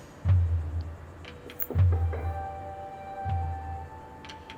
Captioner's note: door knocks